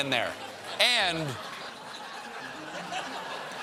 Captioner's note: laughter